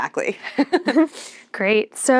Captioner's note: chuckling